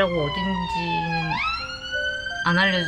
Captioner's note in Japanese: サイレンの音・・